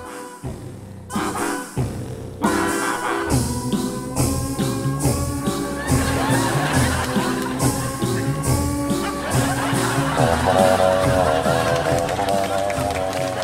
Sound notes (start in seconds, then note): 0.1 jazzy music; 5.4 audience laughs; 10.7 jazzy music